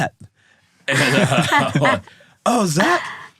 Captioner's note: laughing